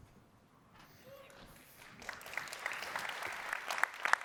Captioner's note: applause